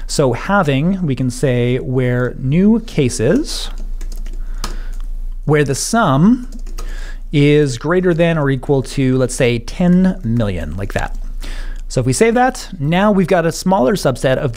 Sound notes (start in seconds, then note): 3.6 tapping key board